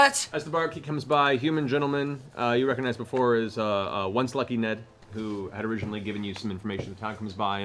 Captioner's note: none